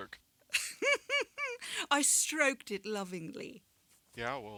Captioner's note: giggles